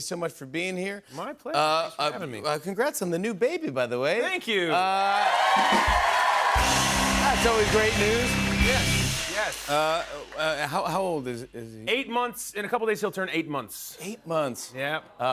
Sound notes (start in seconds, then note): 4.7 cheers and applause